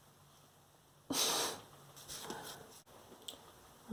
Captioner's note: exasperated sigh